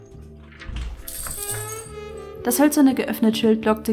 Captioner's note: doorbell rings